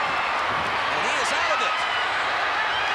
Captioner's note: applause